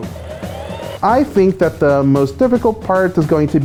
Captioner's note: laughs